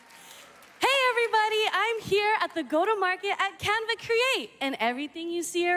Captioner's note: applause